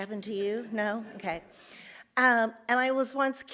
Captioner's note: audience laughs